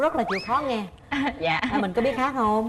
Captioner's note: laughs